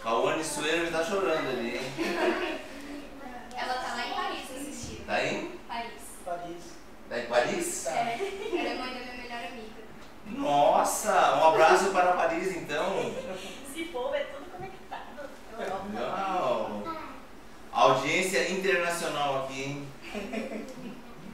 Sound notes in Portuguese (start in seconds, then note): 1.9 risos; 13.0 risos; 20.0 risos